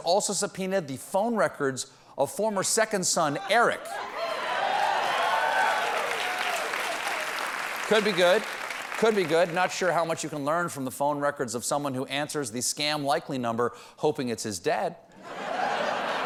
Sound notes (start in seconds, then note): 3.9 cheers and applause; 15.2 laughter